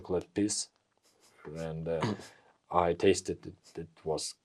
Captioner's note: laughs